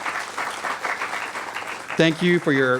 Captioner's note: applause